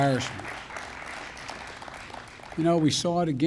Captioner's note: applause